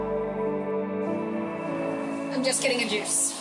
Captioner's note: traffic noise